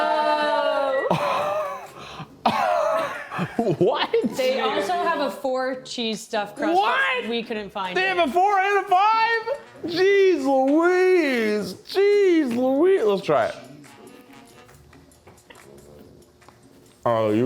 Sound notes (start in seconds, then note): 0.9 scoffs; 15.0 bright music